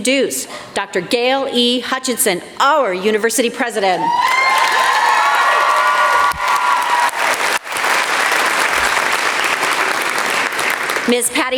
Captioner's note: applause